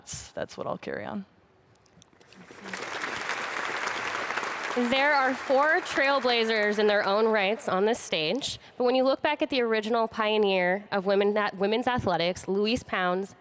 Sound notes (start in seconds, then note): 4.4 audience claps